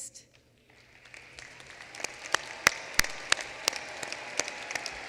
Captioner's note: applause